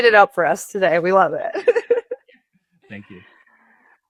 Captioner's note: chuckling